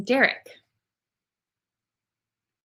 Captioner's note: silence